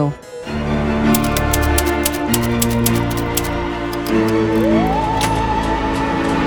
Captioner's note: eerie music; keys clacking